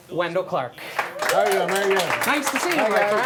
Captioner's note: applause